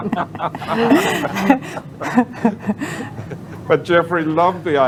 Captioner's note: laughter